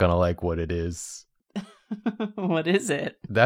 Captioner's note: chuckles